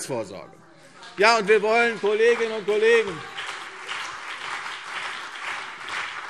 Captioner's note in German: Beifall CDU und BÜNDNIS 90/DIE GRÜNEN